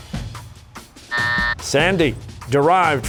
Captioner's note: buzzer